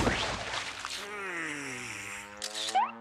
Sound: sighs; camera clicking

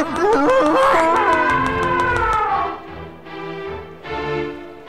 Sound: חצוצרה של פיל

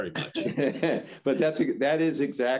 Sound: group laughs

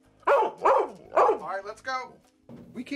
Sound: dog barking

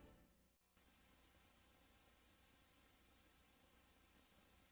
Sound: VHS static

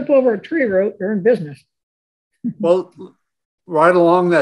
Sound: chuckles

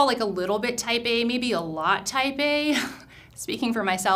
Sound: chuckles

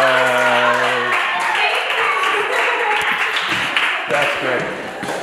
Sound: applause; laughing

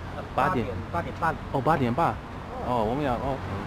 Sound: mandarin

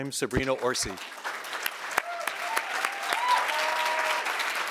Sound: audience applauding

